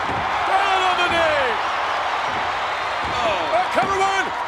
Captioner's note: audience cheers